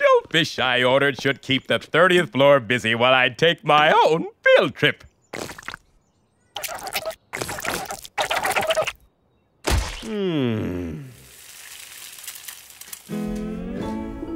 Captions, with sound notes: SHOULD KEEP THE 30TH FLOOR BUSY WHILE I TAKE MY OWN FIELD TRIP. MMM... (SIZZLING)